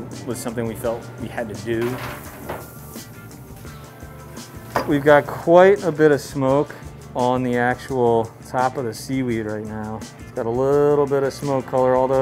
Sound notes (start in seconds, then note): 1.9 meat hisses; 3.1 mellow rock music